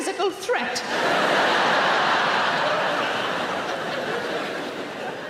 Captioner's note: audience laughing